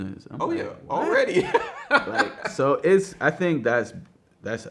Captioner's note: laughs